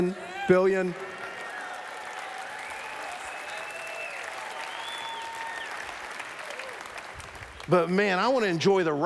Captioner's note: applause